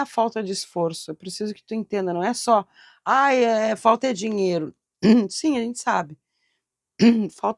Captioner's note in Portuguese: limpando a garganta